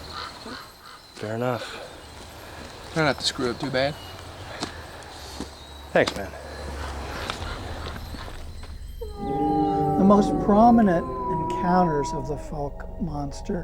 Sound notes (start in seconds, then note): 7.1 animal howls